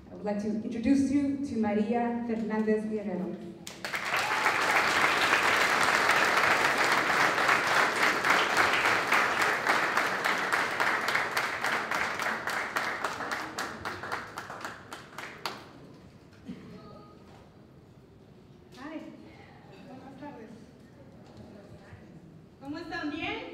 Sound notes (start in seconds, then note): 3.3 applause; 19.8 non-english speech